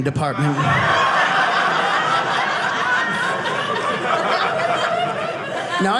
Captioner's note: audience laughing